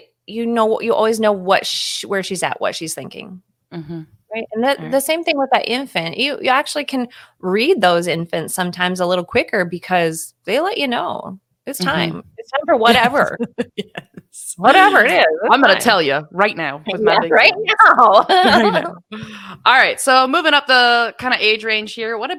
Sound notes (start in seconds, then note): 12.8 laughing; 17.0 laughing